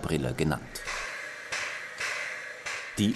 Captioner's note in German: Regelmäßiges Zischen